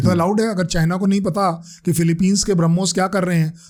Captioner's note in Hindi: गला साफ़ करने की आवाज़